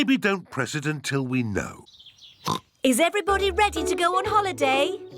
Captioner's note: oinks